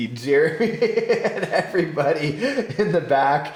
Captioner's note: laughing